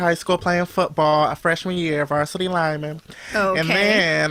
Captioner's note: laughs